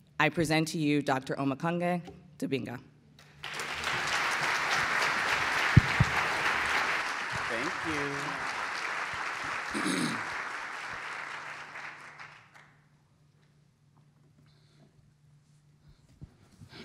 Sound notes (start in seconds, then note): 3.3 applause